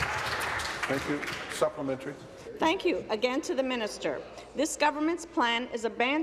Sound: applause

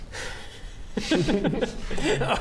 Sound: arrogant giggles

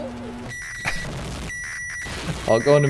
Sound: microwave screeches

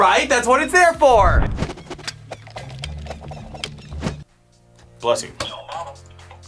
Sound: air whooshing; birds chirping; buzzer

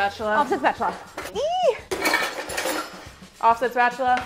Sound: squeals

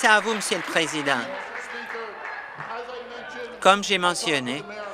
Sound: applause

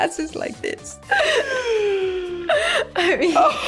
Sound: laughing

